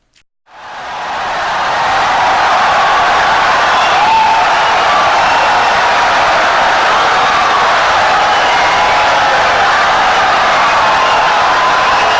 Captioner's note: wild applause and cheering for 17 seconds